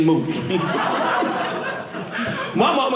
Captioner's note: audience laughing